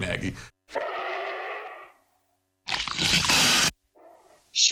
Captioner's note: growling